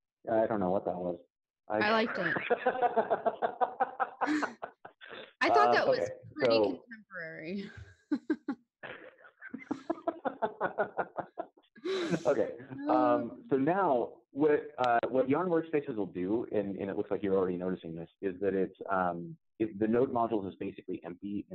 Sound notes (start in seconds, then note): 1.8 laughs; 9.4 laughs